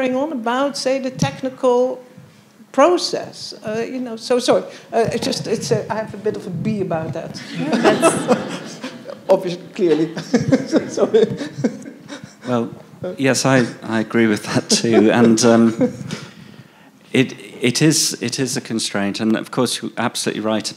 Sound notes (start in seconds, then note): 7.4 everybody laughing; 10.4 laughs